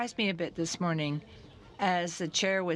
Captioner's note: speaking French